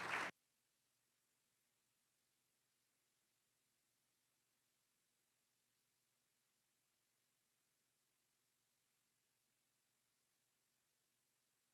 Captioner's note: applause